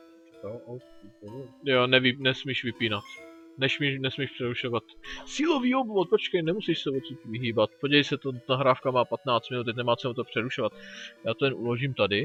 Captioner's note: in old man's voice